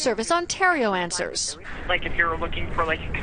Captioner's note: woman on phone